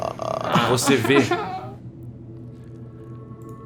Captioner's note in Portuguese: choraminga